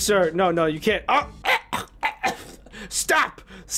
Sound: dying noises

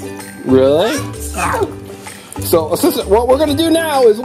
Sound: fake sneeze

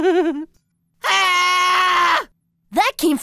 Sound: giggling; shrieking

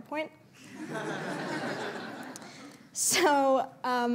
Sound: laughter

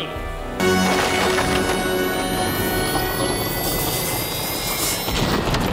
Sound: time travel machine noises; explosions and hellish sounds of WW1 trench warfare

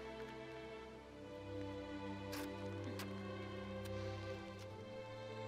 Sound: paper ripping

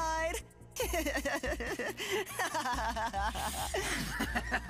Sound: laughing; chuckling

